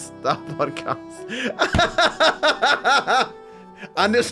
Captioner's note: laughs